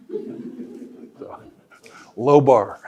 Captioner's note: audience laughing; chuckling